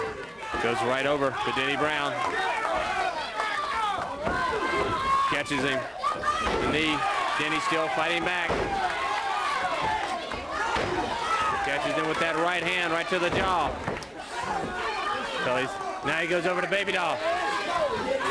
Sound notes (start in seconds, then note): 3.5 crowd chatter; 11.1 crowd chatter